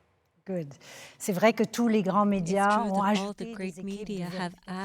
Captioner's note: speaking French